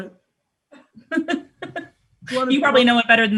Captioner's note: laughs